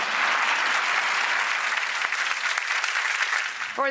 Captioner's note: audience applauding